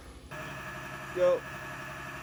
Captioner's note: drill whirs